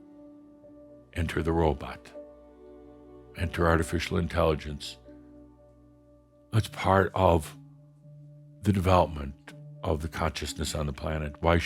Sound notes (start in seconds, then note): none